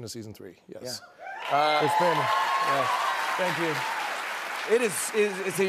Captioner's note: cheers and applause